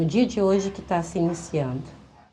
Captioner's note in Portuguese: sinos tocando